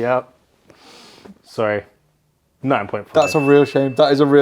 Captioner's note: bell dings